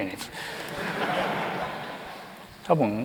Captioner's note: laughter